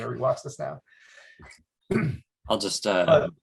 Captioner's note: clears throat